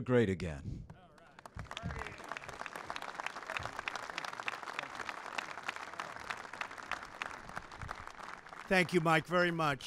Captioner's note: applause